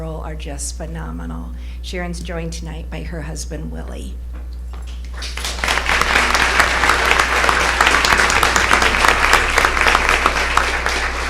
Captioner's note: applause